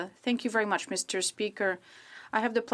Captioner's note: speaking French